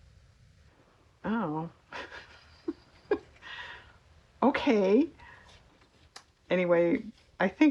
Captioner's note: laughs